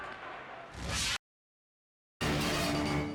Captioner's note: air whooshes; dramatic music